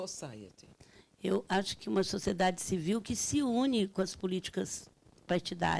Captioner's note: speaking Portuguese